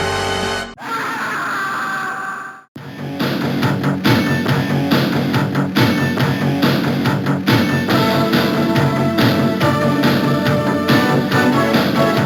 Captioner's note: Scream from ‘Countdown’ plays